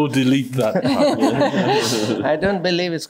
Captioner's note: laughs